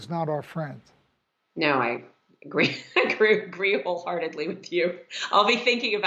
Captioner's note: laughs